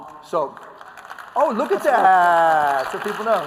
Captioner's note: applause